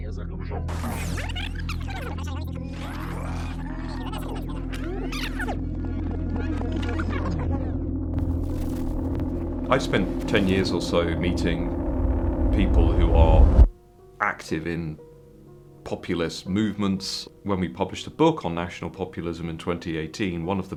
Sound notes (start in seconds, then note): 0.8 tape squeaking